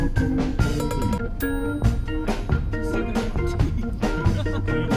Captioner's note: laughs